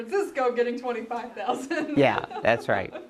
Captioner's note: laughs